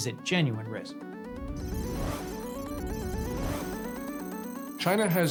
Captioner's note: computer calculating sound effect